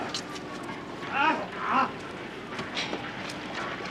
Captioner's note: groans loudly